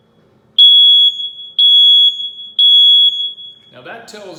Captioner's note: beep, beep, beep